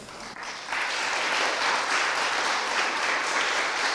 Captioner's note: audience applauds